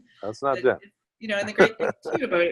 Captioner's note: laughs